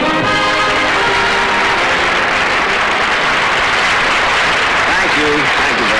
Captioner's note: audience Applauding